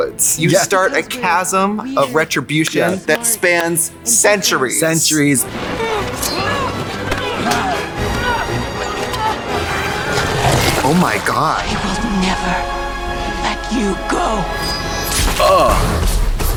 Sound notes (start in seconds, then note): 5.4 people screaming; 5.7 intense music